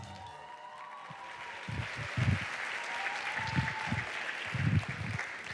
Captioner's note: applause